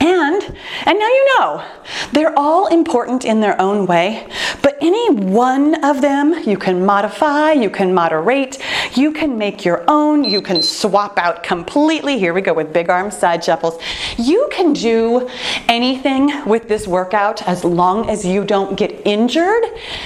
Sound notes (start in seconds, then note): 10.2 timer beeping